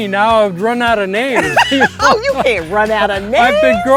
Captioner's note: laughing